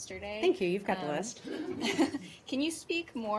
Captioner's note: laughter